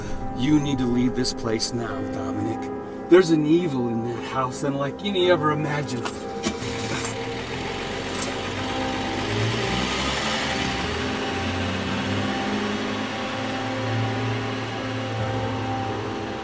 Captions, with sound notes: - You need to leave this place now, Dominick. There's an evil in that house unlike any ever imagined. (car starting) (soft dramatic music)